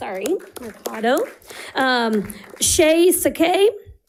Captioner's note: audience applauding